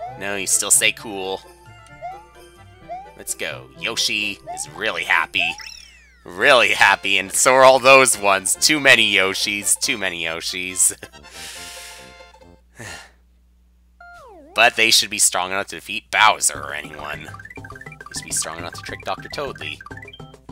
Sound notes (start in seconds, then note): 11.2 breathing